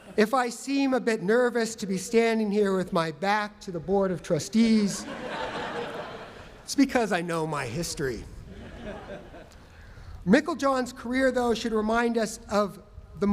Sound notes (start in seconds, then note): 8.4 laughter